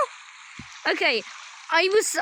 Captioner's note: more water noises; water noises